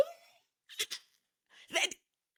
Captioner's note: laughing